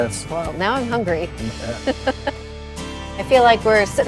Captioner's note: laughing